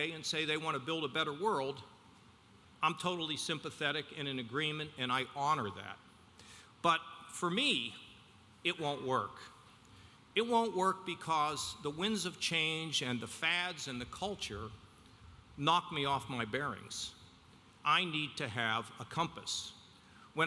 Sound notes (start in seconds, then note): none